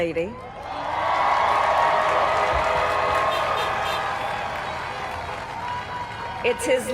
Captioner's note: applaud